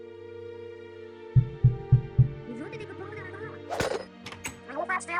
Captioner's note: someone's knocking the back door